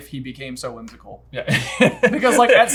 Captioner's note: laughing